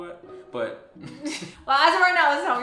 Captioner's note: laughs